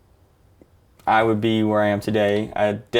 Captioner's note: none